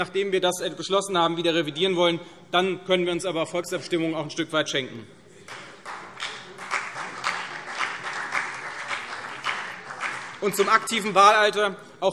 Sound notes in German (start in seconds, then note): 5.4 Beifall CDU und BÜNDNIS 90/DIE GRÜNEN